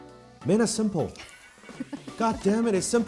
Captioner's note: laughing